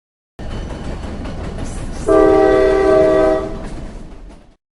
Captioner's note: train Horn Sound